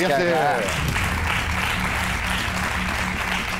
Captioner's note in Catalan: aplaudiments